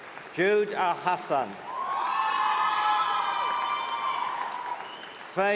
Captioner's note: cheering